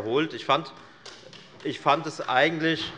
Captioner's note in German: Beifall der Abg